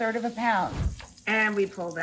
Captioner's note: scene whooshing